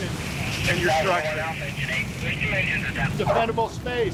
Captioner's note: radio chattering